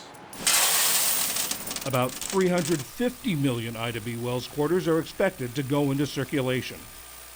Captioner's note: voice-over